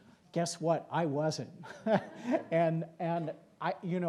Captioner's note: laughs